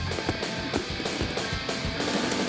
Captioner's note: raspberry; big raspberry